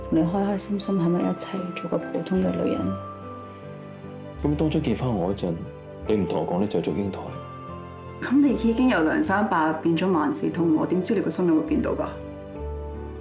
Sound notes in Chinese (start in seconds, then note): none